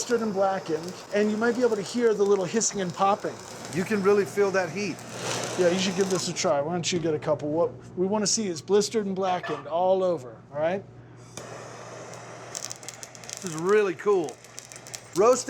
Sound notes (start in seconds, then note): 11.4 chili sizzling